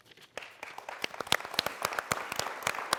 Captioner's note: applause